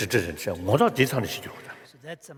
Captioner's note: foreign Language